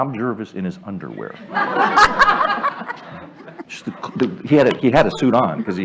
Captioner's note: laughter